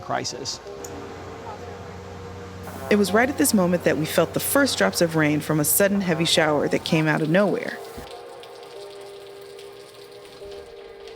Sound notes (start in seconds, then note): 0.2 bright upbeat music; 8.0 rain pouring